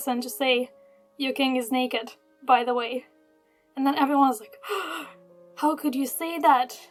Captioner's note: gasp